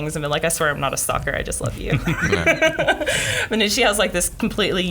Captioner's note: laughs